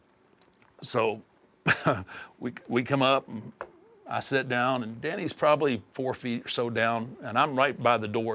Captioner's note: laugh